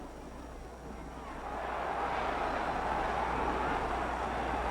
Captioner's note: crowd cheers